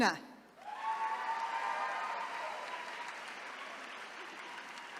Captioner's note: attendees cheering